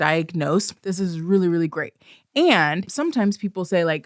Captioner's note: emphatically